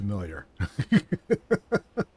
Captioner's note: laughs